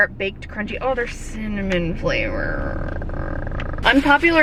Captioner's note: groans